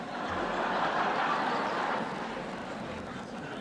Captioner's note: audience laughing